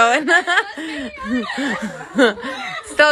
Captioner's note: laughter